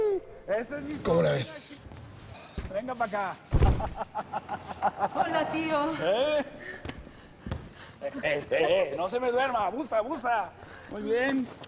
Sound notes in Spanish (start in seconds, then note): 3.7 risas